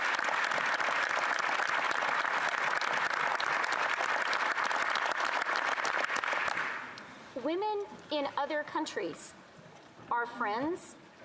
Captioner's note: some Applause